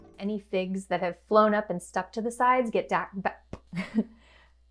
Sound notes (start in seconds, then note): 3.7 laughter